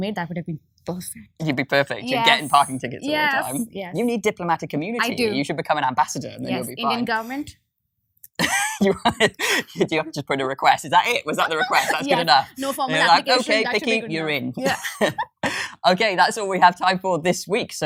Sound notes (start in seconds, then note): 8.5 laughs; 15.4 laughs